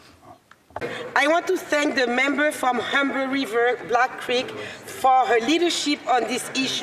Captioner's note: speaking French